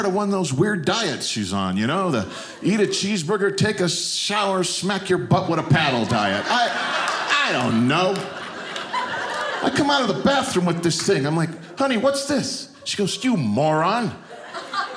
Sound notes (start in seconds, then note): 8.4 audience laughing